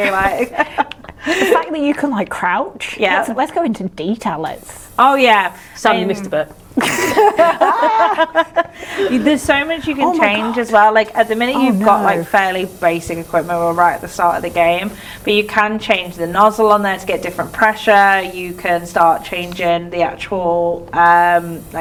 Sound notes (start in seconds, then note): 6.8 laughing